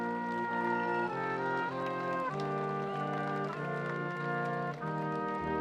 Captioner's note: audience applauding